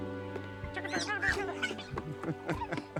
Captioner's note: Allison giggling; Michael laughing